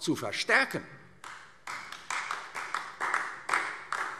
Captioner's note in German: Beifall AfD